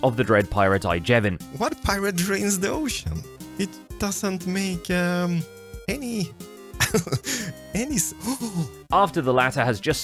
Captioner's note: chuckles; gasps